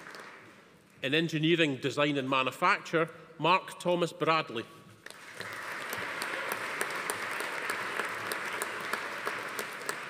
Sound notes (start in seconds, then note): 5.0 audience applauding